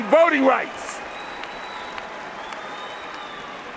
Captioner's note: cheers and applause